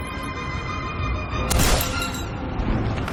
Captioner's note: epic music starting; gunshot